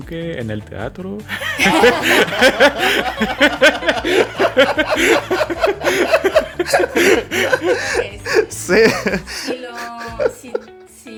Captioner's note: laughs